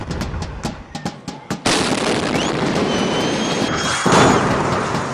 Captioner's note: sound of explosions; celebratory music in background; sound of explosions